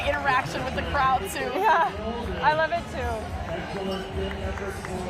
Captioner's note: cheering